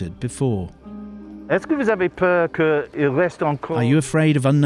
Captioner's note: speaking french